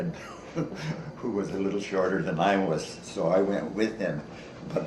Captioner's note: chuckles